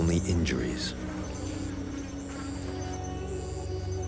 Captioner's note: flies buzzing